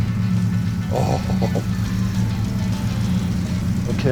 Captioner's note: giggling